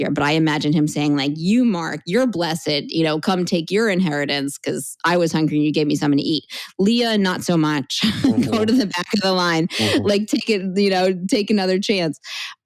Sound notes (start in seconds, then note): 9.8 chuckle